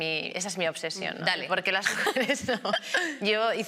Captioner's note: laughs